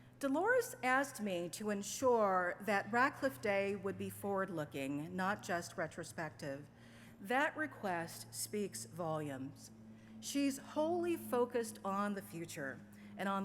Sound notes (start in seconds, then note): none